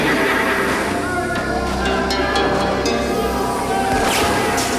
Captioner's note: Twister laughs; townsfolk yell; glass shatters; gun fires